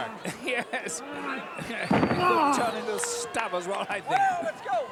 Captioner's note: laugh